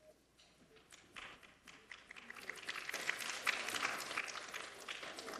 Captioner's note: applause